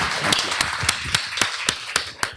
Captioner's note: applause